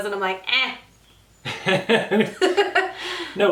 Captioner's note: both laugh